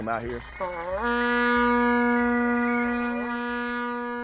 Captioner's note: blows horn